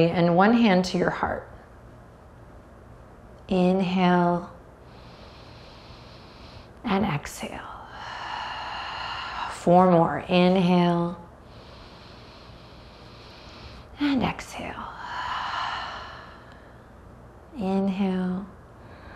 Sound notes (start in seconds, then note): 4.8 deeply inhales; 7.8 deeply exhales; 11.3 deeply inhales; 14.9 deeply exhales; 18.8 deeply inhales